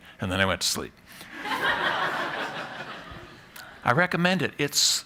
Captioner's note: laughter